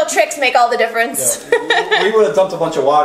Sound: laughing

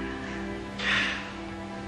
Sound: sighs

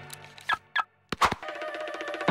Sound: remote car-locking noise

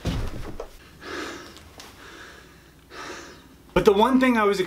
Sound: breathes heavily

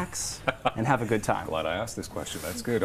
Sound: chukles

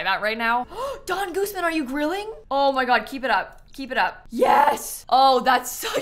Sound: gasps

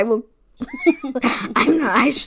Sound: laughing

